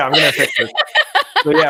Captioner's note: laughs loudly